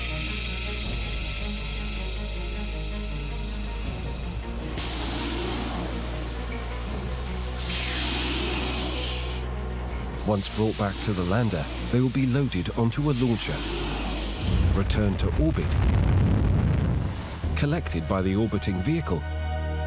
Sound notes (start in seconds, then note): 5.1 compelling music; 5.1 device hissing; 16.1 rocket roaring